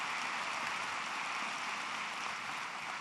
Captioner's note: applause